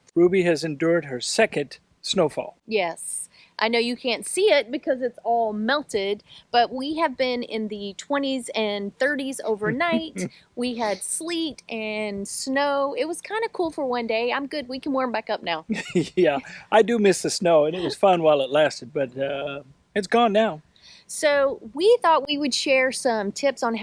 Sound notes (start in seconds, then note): 9.6 laughs; 15.7 laughs